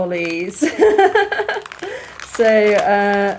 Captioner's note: laughing